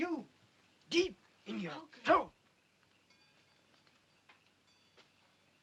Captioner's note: whispers